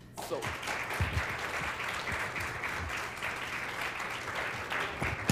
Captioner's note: applause